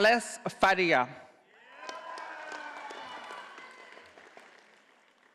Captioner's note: audience applauding